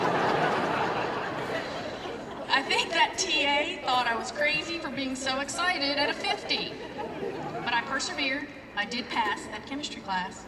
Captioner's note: laughter